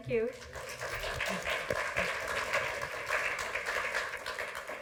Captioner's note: audience claps